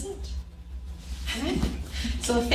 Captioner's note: group laughs